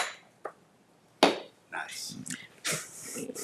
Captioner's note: gavel thumping